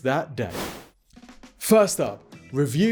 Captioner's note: whoosh